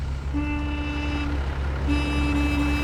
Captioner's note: horn honks; continues honking